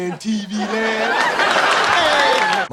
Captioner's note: crowd applauds